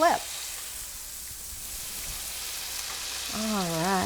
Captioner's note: pan sizzling